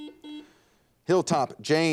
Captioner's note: buzzer dings